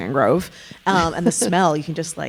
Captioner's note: chuckling